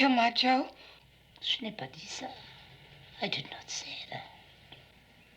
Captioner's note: foreign language